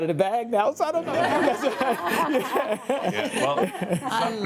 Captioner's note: laughs